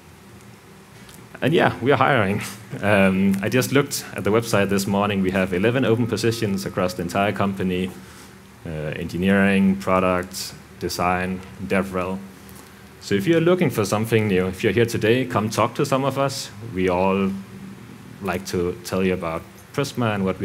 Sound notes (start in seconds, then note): 2.7 chuckles